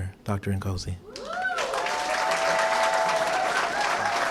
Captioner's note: cheering & applause